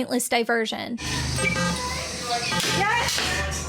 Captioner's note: machines beeping